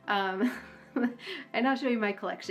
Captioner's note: laughing